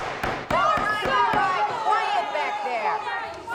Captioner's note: clamoring